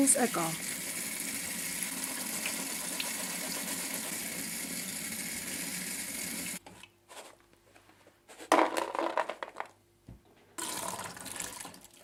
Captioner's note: rinsing, running water sounds